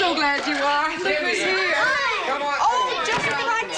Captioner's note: all exclaiming happily